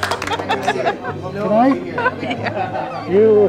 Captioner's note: laughing